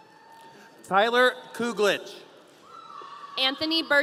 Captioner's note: audience cheering